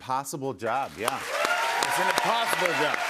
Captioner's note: cheers and applause